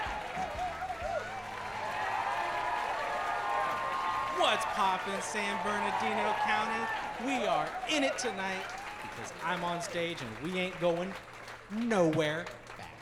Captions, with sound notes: (audience cheers) - What's popping, San Bernardino County? We are in it tonight, because I'm on stage and we ain't going nowhere fast.